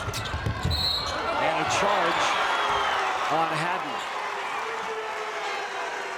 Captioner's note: whistle blows